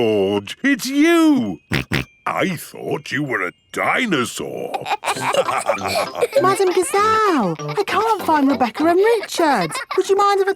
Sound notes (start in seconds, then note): 1.7 snorting; 4.8 all laughing